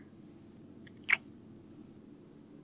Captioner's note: kiss